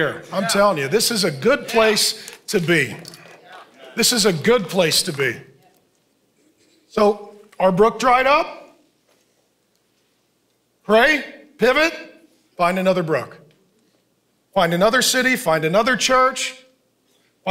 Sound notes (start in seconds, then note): 3.5 congregation cheering